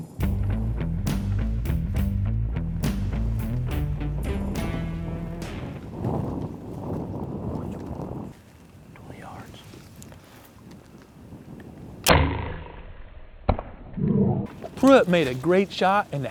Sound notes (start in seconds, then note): 3.8 whispering